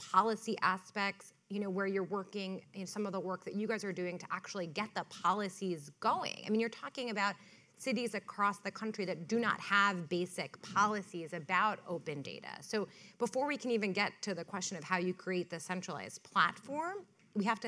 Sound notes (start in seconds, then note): none